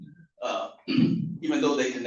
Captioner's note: coughs